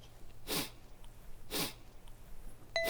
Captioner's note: sniff